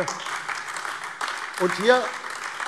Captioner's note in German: Beifall AfD